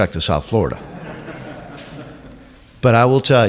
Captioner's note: laughs